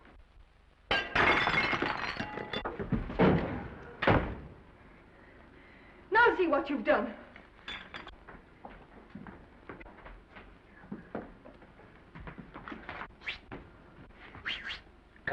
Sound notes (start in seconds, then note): 0.9 tray shatters; 2.8 Norman thuds; 8.0 footsteps receding; 14.4 Norman whistling